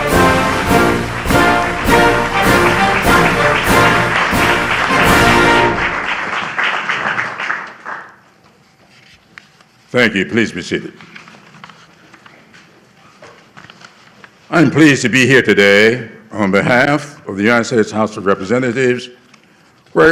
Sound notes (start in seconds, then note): 3.7 applause